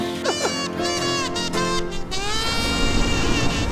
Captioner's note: chuckles